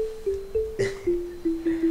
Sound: laughs

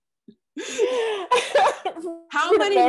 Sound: laughs

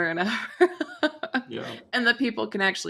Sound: laughs

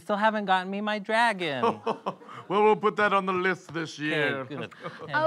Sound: belly laughter

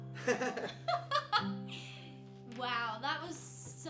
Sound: both chuckles

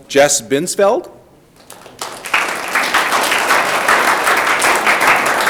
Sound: audience clapping

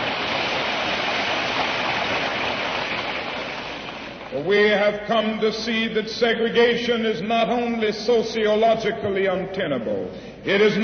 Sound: applause

